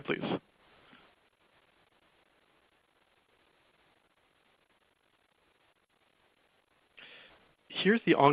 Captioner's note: silence